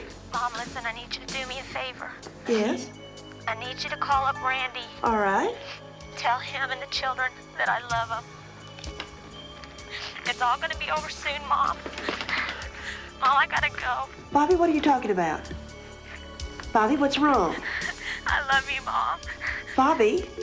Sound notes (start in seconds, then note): 0.5 on phone; 3.9 on phone; 6.6 on phone; 11.8 crying; 18.0 on phone; 18.4 crying